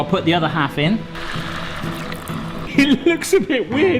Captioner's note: water burbling; whimsical orchestral music